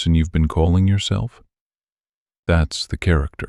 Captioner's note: pause